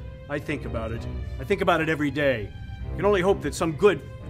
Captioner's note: none